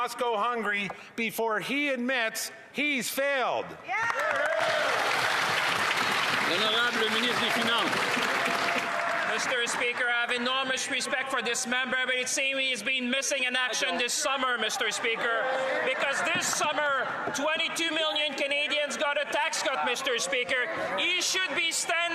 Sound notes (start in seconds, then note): 9.6 applause; 13.1 speaking French